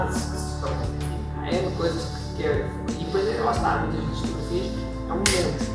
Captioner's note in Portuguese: estala os dedos